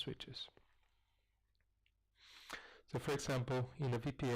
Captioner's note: pause